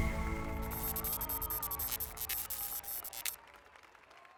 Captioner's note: applause and cheers